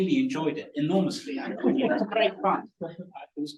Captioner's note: laughing